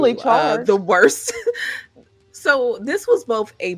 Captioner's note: laughing